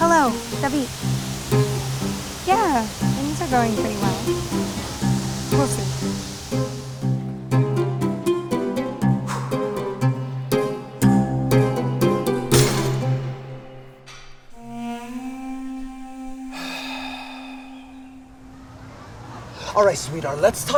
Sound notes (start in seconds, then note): 6.9 playful music; 9.4 sighs; 12.5 barbell clatters; 16.5 sighs